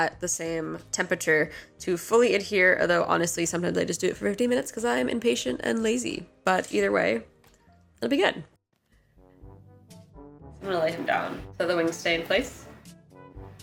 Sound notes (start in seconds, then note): none